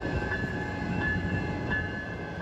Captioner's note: train bell